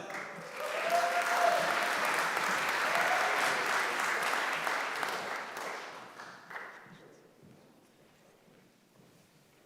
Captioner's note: applause